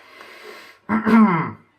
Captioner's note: cough cough